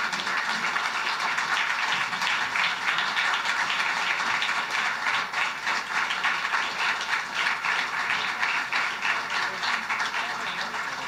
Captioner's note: applause